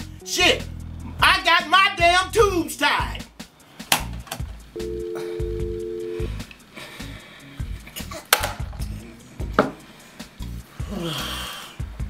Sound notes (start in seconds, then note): 4.8 engaged tone; 8.6 upbeat music